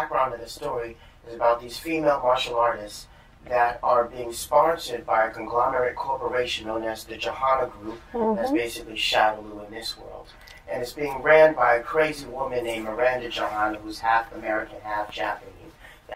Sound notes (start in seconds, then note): 8.1 sounds of agreement